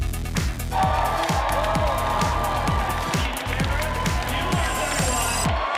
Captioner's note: audience cheering